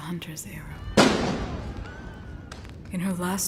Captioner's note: gunshots and distant shouts